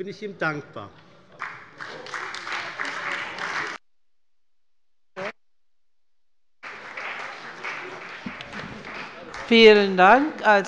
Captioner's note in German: Beifall bei der CDU und dem BÜNDNIS 90/DIE GRÜNEN